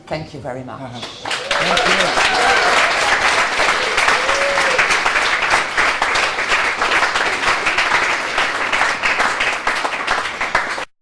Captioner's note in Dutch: applaus